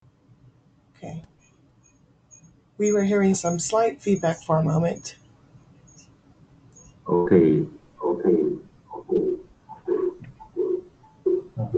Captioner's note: feedback noise